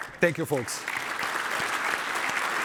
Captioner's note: applause